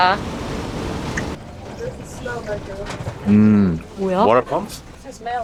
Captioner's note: suddenly a bomb explosion sound is heard from the truck